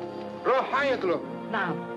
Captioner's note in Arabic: رجل يتحدث بلغة أجنبية